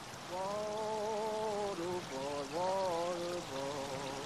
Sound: water flowing

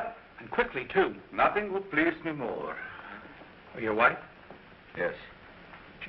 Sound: sighs

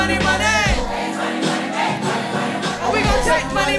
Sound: crowd

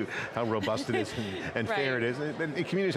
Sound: laughs

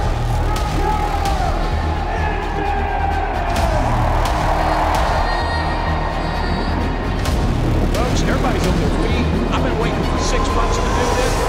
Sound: cars racing on track

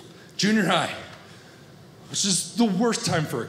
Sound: none

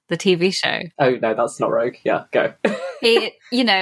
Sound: laughs

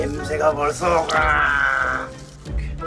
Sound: roaring for the prey

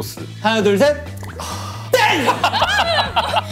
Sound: sighing

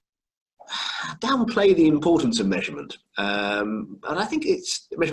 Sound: sighs

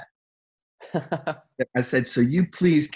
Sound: laughs

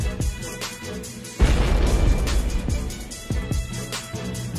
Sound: explosions

